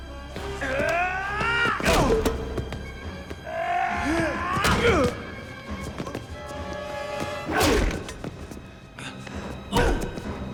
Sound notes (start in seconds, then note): 0.7 Gammon yelling; 5.1 Dalton thudding; 7.5 punches thudding